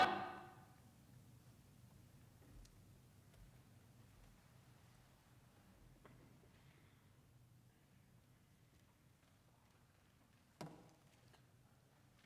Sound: yelling

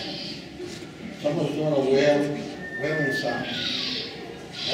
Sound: owl Screech

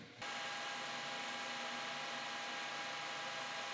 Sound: machine whirs

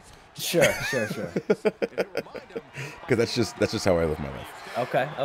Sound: laugh

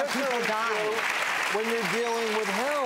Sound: clapping

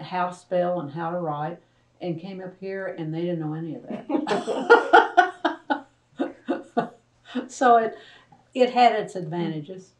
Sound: laughter

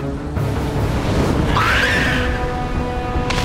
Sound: screeching

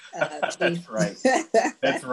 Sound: chuckles

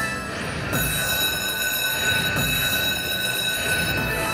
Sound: bell ringing

